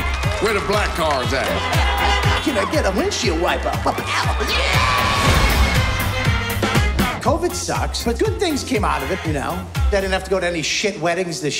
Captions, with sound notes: Where the black cars at? -(APPLAUSE) -(CARS HONKING) Can I get a windshield wiper. Pa-pow! (SCREAMS) Yeah! COVID sucks. But good things came out of it, you know? I didn't have to go to any shit weddings this year.